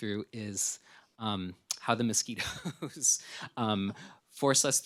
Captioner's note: laughs